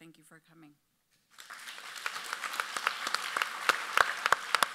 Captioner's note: audience applauds